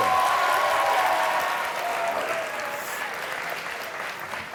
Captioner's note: audience cheering